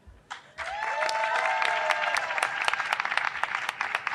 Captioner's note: audience cheering